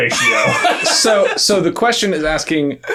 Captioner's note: both laughing